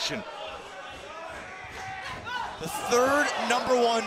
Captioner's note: crowd chatter